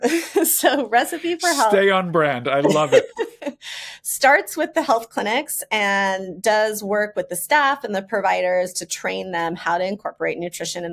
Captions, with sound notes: (laughs) So Recipe 4 Health- - Stay on brand. I love it. - (laughs) Starts with the health clinics and does work with the staff and the providers to train them how to incorporate nutrition